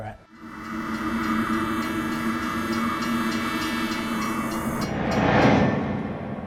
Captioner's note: train whistle blaring; bell dinging; memory image whooshes